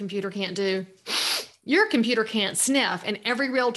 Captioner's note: sniffs